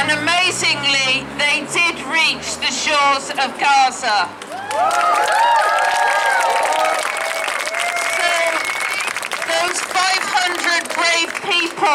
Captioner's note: cheers